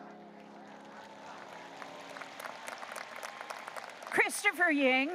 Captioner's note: audience applauding